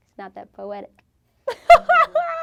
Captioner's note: laughs